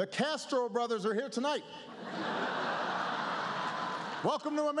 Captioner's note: laughter